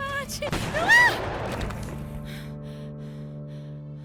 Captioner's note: gunshot banging